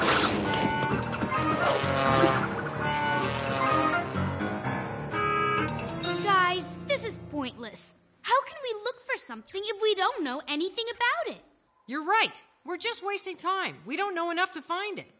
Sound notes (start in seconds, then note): 0.1 clatter of feet; 2.4 digit buzzes around